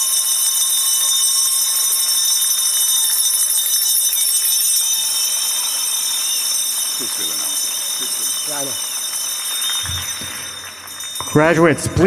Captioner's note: bell ringing; applause